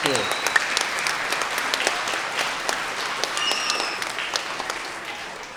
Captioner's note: everyone applauding